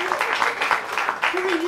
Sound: applause

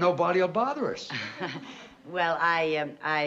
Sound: anxious laugh

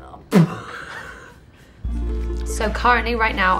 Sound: laughing

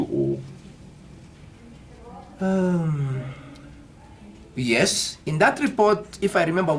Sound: >> Deep Sigh

